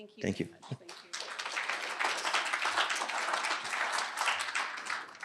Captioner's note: applause